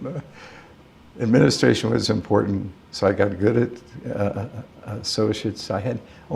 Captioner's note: laughter